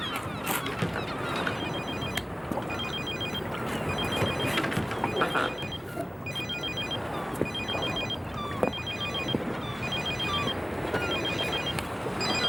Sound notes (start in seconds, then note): 1.9 phone ringing